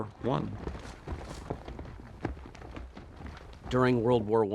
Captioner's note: footsteps echoing